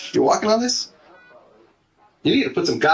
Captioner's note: busy hospital; heart monitor